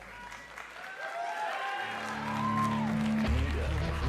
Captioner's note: crowd cheering